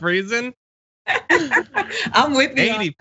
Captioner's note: laugh